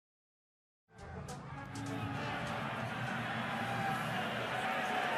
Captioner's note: whistling